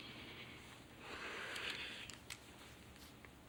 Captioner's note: sighs